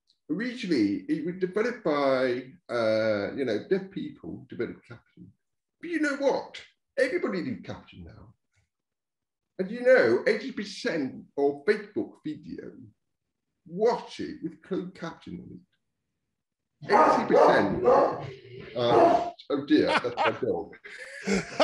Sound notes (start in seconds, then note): 16.8 dog barking; 21.4 laughing loudly